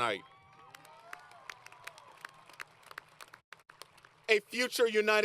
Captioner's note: applause